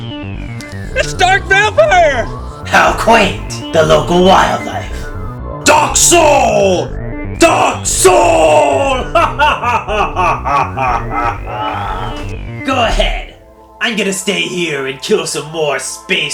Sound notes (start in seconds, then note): 8.8 evil laugh